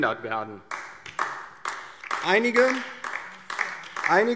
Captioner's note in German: Beifall DIE LINKE